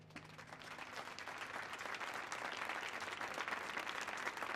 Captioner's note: audience clapping